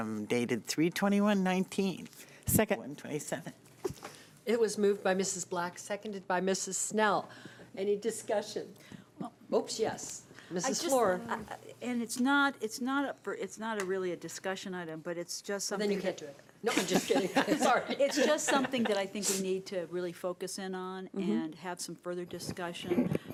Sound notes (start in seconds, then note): 16.7 laughing